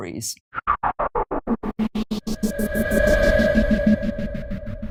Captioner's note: electronic whirring